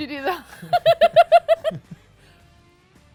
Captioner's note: laughs